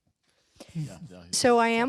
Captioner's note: laughter